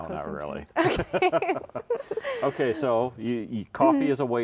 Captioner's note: both laughing